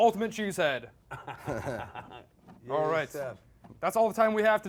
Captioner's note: both laughing